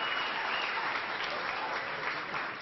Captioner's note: applause